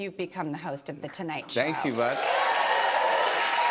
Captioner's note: cheers and applause